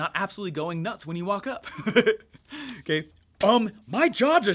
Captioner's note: laughs